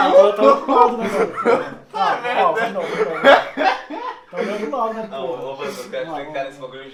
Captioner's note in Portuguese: aspas rindo